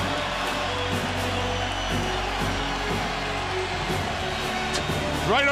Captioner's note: crowd cheering continues